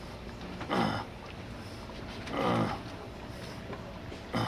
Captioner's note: grunting Continues